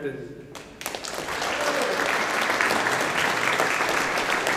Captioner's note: audience applauding